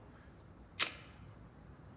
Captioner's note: gun clicks